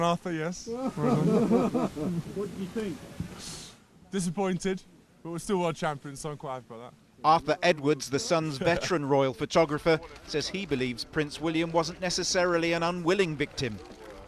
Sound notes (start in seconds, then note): 0.7 photographers laughing; 2.3 voiceover; 7.3 voiceover